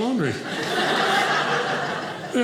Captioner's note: audience laughing